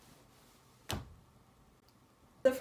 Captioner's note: smacks hand on arms of chair